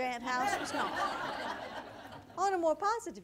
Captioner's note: audience laughter